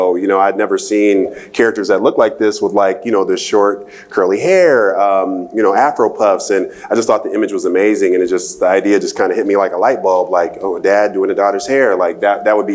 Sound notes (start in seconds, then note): none